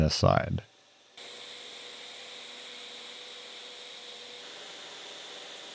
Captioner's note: machine whirring